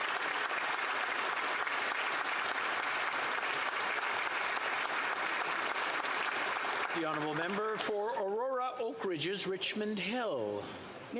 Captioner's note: applause